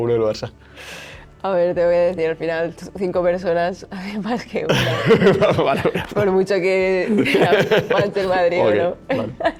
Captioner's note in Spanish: risas